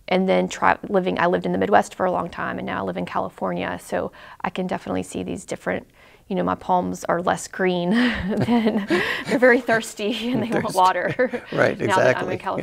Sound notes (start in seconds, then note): 8.0 laughs